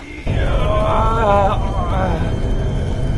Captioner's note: jonas groaning